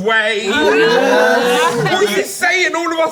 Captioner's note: everyone laughs